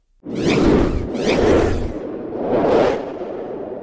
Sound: graphics whooshing

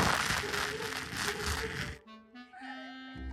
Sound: laughs ♡

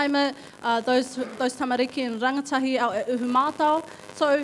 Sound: speaking in foreign language

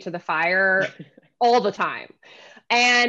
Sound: chuckling

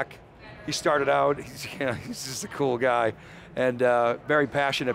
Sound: chuckles

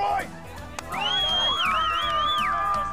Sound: cheering

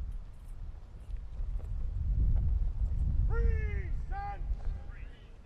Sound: soldiers continues shouting commands

